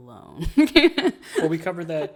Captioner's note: laughs